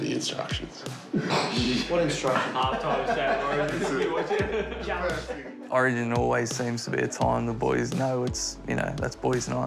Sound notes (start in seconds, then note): 3.1 sniggering; 6.0 laughter, chatter